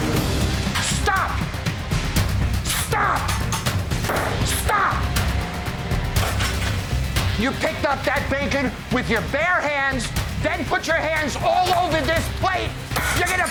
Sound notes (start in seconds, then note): 0.2 dramatic music; 4.0 hand slams; 5.5 dramatic music continues